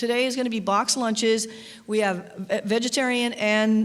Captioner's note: none